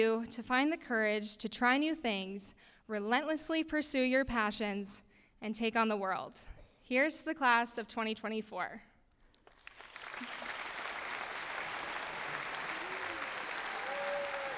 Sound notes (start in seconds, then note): 9.4 applause